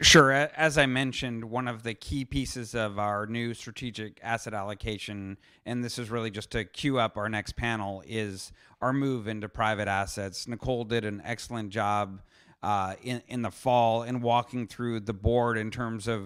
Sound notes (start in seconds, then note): none